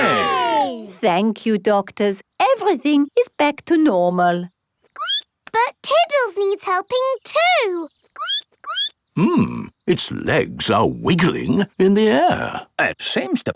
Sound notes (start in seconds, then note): 5.4 squeaks